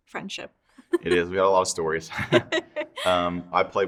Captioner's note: both laughing